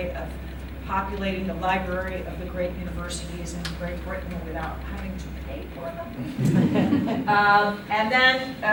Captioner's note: laughter